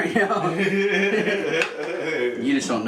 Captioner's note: laughs